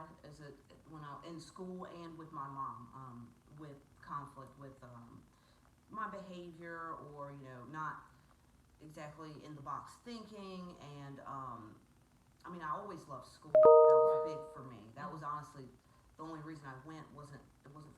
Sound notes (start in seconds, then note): 13.5 computer chimes